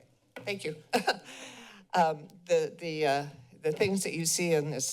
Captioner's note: chuckles